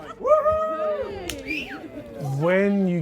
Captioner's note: cheering